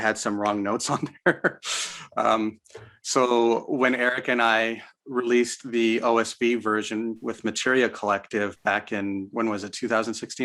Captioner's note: chuckles